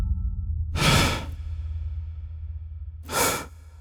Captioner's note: slow breathing